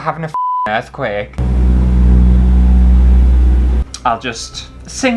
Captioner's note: rumbling Noises